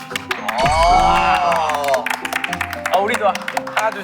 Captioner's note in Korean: 박수